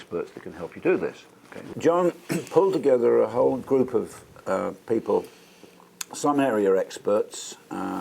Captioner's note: cough